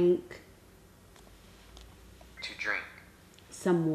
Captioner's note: male voice from device